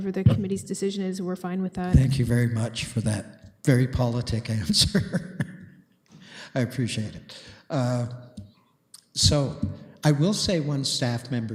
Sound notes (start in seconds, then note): 4.6 chuckles